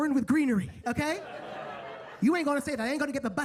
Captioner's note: attendees laughing